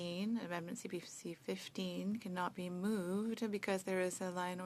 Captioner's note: speaking French